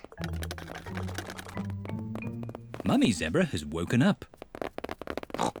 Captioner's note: pattering; oinks